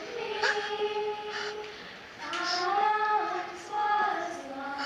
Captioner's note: sobbing